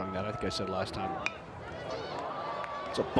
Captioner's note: bat dings